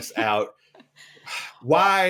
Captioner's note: laughs